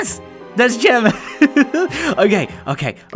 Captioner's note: nervous chuckle